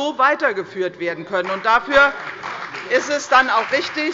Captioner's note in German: Beifall bei der CDU und dem BÜNDNIS 90/DIE GRÜNEN